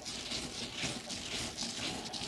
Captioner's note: scratching noises